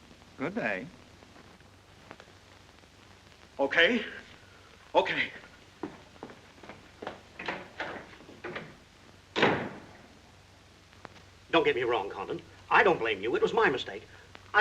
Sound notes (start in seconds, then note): 5.8 hasty footsteps; 9.3 door opens and closes